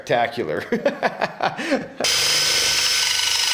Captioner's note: laughs